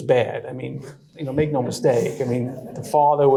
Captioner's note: audience laughing